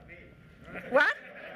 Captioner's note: laughing